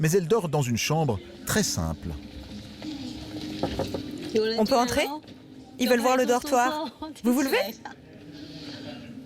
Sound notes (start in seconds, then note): 3.6 door knocking; 4.6 speaking foreign language